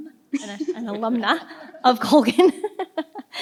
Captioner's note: participants laugh